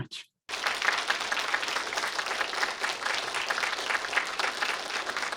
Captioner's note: audience applauding